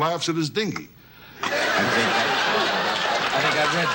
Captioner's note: audience laughs